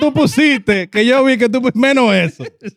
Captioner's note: speaking In Foreign Language